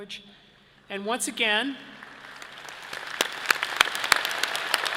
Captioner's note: all applauding